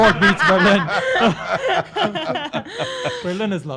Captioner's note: everyone laughs